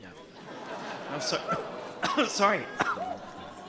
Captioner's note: audience laughing